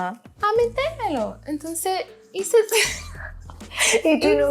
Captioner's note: laughter